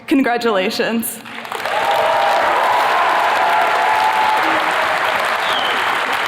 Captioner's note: attendees cheers and claps